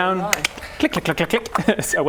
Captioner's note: click click click click click; click click!